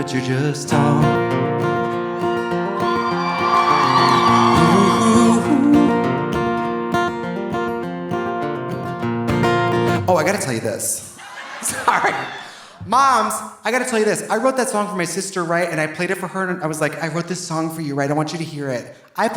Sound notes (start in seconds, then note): 2.6 audience cheering; 11.1 audience laughing